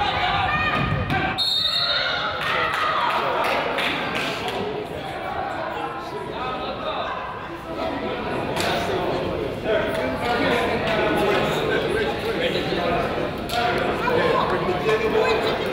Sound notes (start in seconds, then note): 1.3 whistle blows